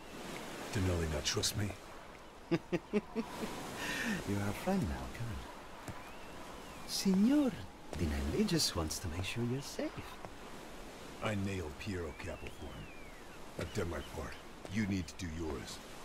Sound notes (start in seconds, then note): 2.4 laughs